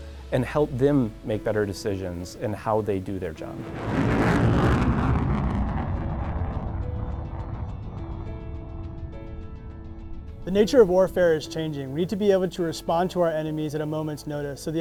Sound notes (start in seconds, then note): 3.5 aircraft engine roars; 8.0 gentle music